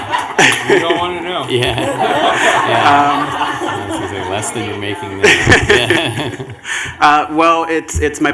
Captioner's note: laughter